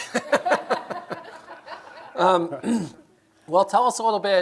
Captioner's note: laughter